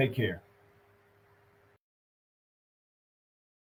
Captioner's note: silence